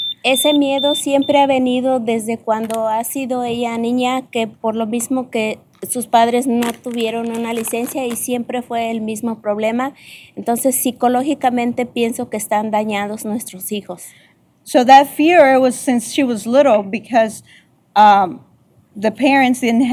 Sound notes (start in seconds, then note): 0.1 speaking spanish; 1.7 beeping